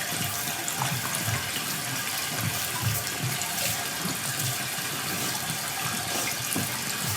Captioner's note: water trickling continues